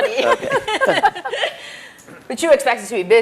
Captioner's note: chuckles